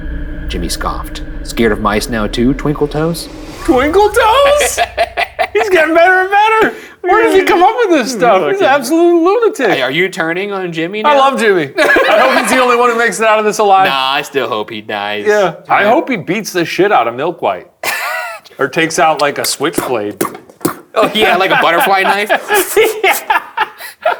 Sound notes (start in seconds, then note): 4.5 laughing; 11.8 laughing; 20.2 vocalizing punches; 20.9 laughing